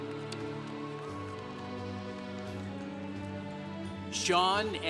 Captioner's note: congregation cheering